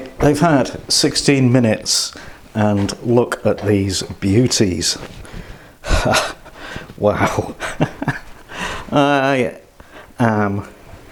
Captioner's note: laughs